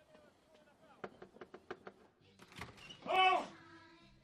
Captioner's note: door knocking